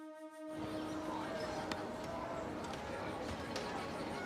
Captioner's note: crowd chatter